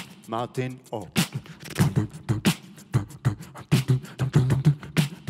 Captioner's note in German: Er macht Bassgeräusche